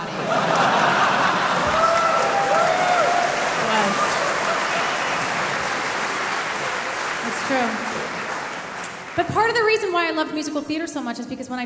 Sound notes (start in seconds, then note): 0.0 audience laughing; 1.9 audience cheering